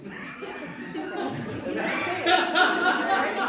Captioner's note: laughter